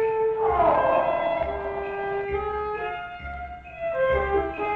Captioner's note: Rosina roaring